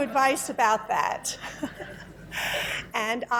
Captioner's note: laughter